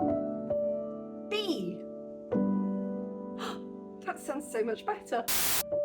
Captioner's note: gasp